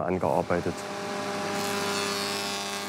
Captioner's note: machine noise